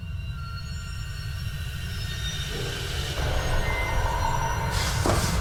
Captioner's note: hissing